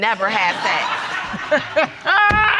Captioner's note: judge lake laughing